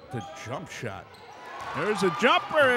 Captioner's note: clapping; cheering